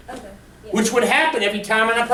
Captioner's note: voiceover